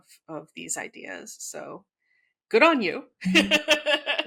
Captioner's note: laughs